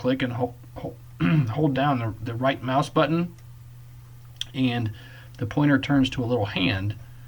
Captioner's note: clears Throat